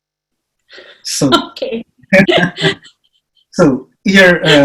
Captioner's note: chuckles